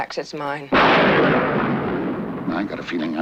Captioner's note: lightning thunders